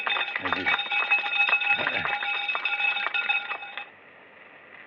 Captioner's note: applause; cowbell ringing